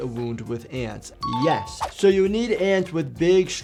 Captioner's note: bell ringing